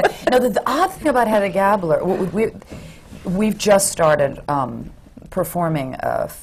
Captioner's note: laughter